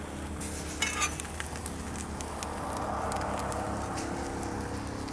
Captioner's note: meat sizzling